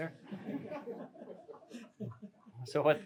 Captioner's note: laughter